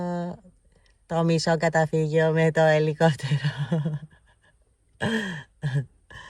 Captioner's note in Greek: γέλια